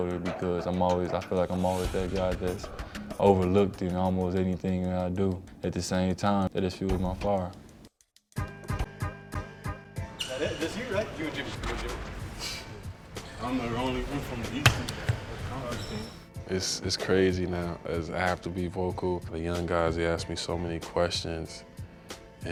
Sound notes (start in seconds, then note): 8.3 upbeat music; 10.4 chattering